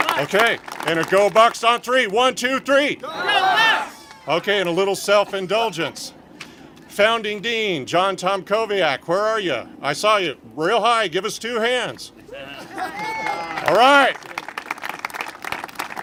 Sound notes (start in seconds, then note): 3.0 congregation shouting; 13.0 congregation applaud